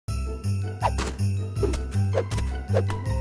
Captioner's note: snowballs splatting